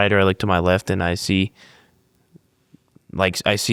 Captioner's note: none